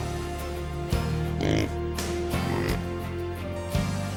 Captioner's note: pig oinks